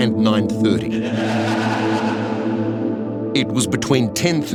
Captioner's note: laughing